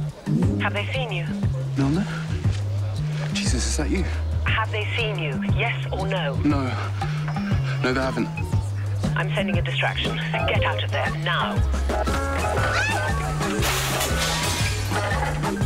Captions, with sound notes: - Have they seen you? - Milner? Jesus, is that you? Have they seen you? Yes or no? No. No, they haven't. I'm sending a distraction. Get out of there now. Hey! (GLASS SMASH ES)